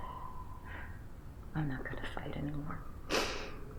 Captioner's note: sniffles